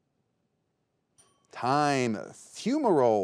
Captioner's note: timer chimes